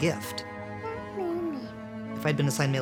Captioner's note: chattering